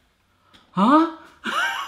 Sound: laughs

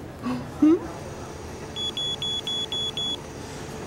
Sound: beeping

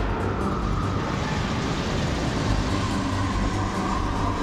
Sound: wind whistling

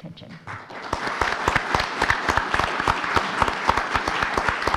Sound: audience applauding

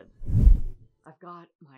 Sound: woosh

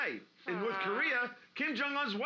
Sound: mimics trombone

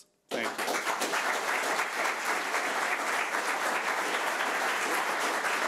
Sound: audience applauding

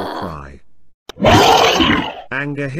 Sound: roar

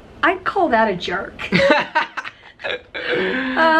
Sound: laughter

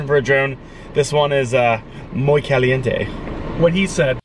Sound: speaking in foreign language

